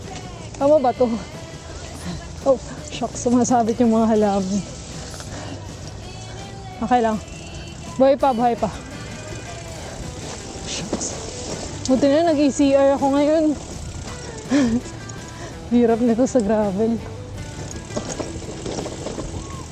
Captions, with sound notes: Is this right? Shocks! The branches are hanging. I'm alive! Still alive! Thankfully I brought ECR with me. [exhale] this is hard to do with gravel!